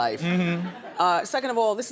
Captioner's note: audience laughs